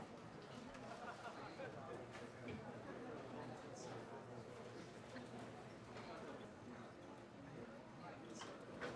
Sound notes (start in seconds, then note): 1.0 laughter